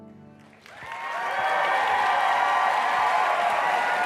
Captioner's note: applause